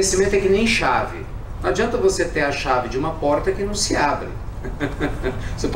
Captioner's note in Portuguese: Risos